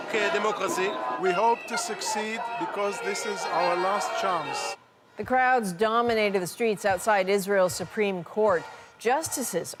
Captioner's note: speaking alternate language